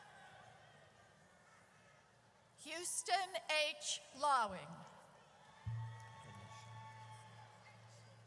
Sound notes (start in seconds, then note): 5.4 audience cheers